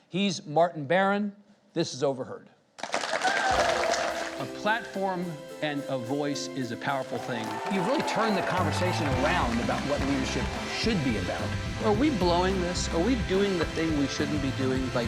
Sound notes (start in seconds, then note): 2.8 audience applauds